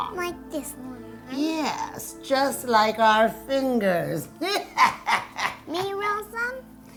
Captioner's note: laughing